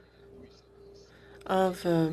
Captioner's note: speaking in alternate language